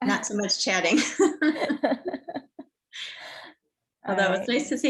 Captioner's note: laughs